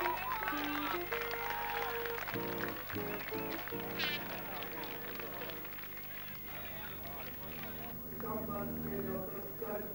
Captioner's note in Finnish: Aplodeja